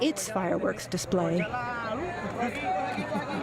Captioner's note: speaking spanish